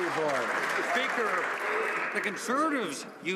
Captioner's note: some Applause